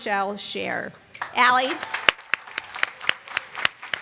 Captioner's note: applause